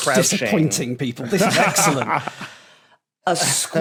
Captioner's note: laughs